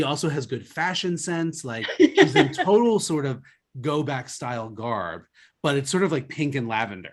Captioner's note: laughs